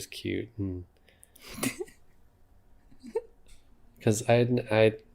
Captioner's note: giggles